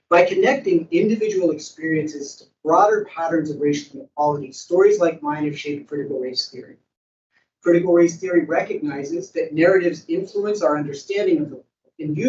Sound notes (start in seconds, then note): none